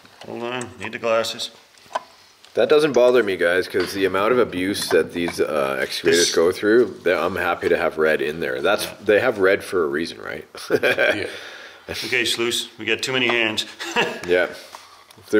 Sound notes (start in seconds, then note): 10.6 laughs; 13.7 laughs